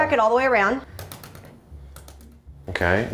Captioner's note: egg cracking